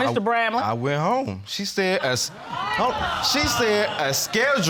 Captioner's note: audience exclaiming